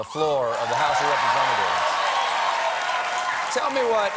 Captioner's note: cheers and applause